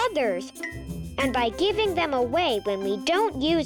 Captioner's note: planet clinking